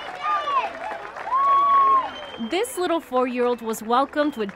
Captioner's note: clapping